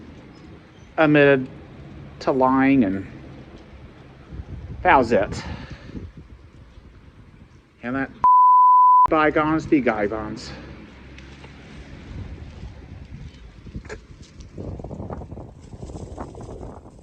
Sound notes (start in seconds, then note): 10.8 spits on the ground